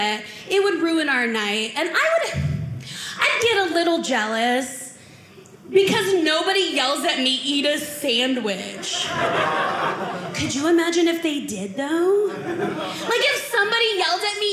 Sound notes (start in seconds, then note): 8.7 audience laughing